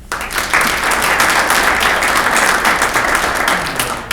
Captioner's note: clapping